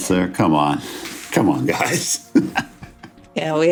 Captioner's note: laughs